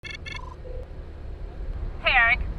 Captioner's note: phone beeping